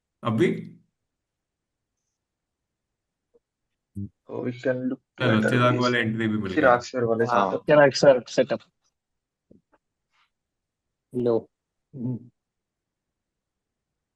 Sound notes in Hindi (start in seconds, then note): 5.3 गला साफ़ करने की आवाज़